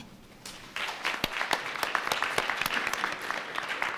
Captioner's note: audience clapping